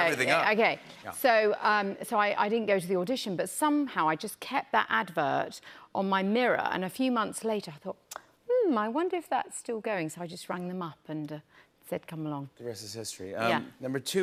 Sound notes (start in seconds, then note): none